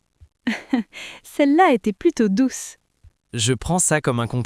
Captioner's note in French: rire